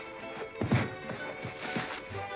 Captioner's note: thump